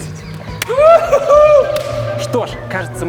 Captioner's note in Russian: крики радости